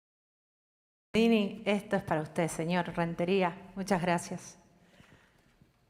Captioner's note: speaking in Spanish